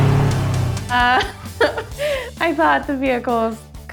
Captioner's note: laughing